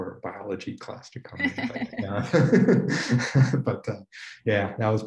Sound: laughing

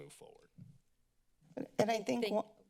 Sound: silence

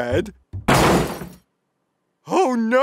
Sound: crash

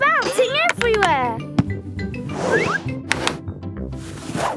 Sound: laughing

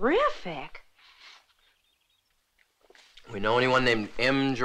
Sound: sniffs

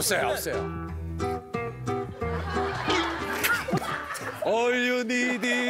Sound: laughing

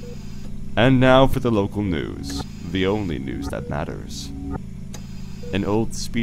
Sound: mechanical ambiance

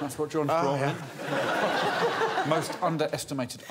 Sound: laughter

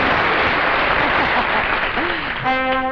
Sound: celeste chuckling

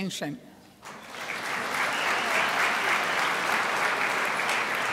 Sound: crowd applauds

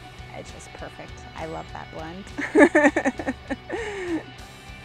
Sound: chuckles

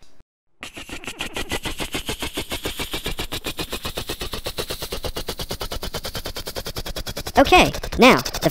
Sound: motor accelerating

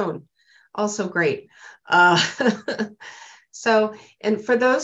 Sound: laughter

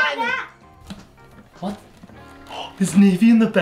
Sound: gasping

